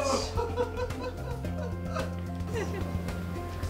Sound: laughter ripples

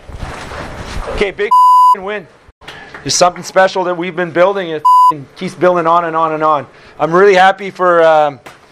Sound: bip

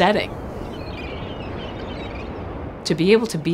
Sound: birds chirping

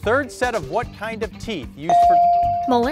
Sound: bell dings

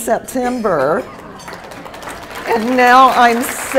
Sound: applause

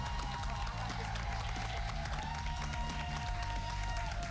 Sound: cheers and applause

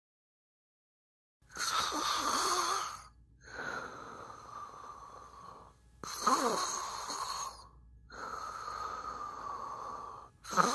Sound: sound of breathing

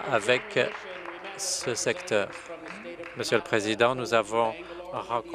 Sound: applause

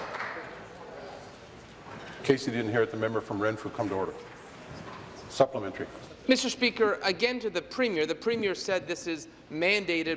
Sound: applause

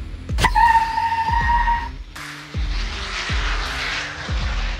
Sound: tires screeching; engine revving

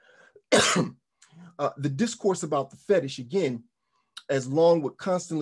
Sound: coughs

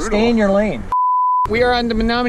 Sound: beep

